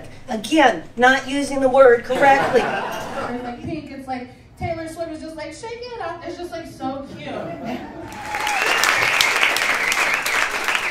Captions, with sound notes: Again, not using the word correctly. (audience laughing) It's like Taylor Swift is just like, "Shake it up." It's just like so cute. (audience laughing) (audience applauding)